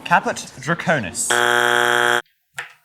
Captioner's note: bzzzzzzzzzzzzzzzz